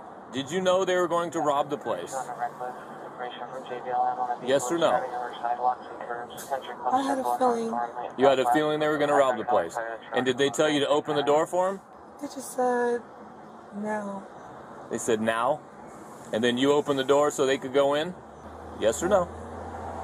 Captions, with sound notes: Did you know they were going to rob the place? (Radio chatter) Yes or no? Side walks and curves I had a feeling You had a feeling (Radio chatter) they were gonna rob the place And did they tell you to open the door for them? They just said... now They said now? And then you opened the door so they could go in? I did Yes or no?